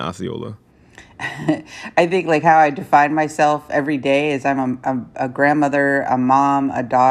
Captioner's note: laughter